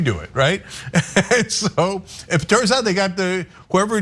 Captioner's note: laugh